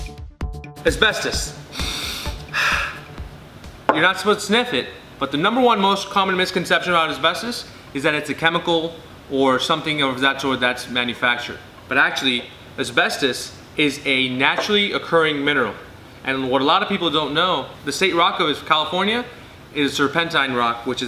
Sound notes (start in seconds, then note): 1.7 sniffing and exhaling